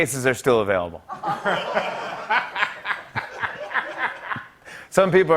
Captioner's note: laughter